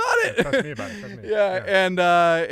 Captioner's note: all laughing